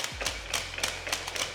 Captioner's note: slap